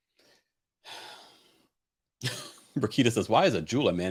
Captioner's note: sighs